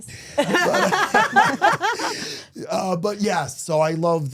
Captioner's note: laughs